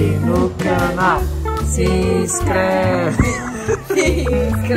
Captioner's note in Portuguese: risos